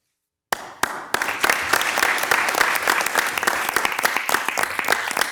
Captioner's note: everybody clapping